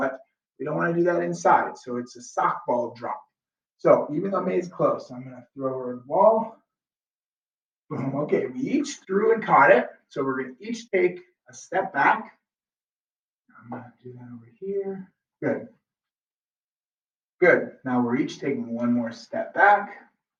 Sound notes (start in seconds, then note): 7.9 laughs